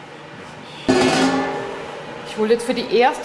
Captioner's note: metallic clatter